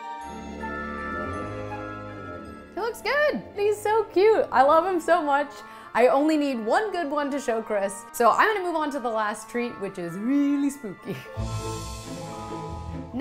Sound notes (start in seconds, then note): 11.1 laughs; 11.5 whimsically spooky music